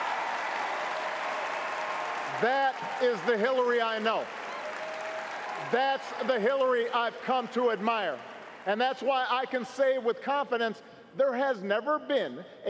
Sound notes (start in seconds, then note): 2.4 cheers & applause